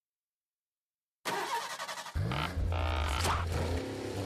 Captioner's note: engine starting